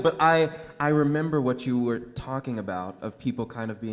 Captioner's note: none